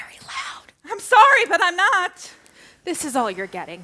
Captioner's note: whispering; shouting